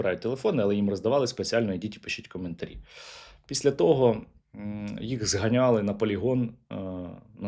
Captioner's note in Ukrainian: сопіння